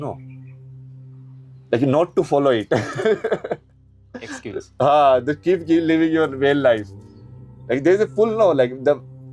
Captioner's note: हंसी